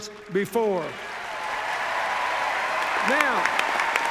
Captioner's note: cheers, applause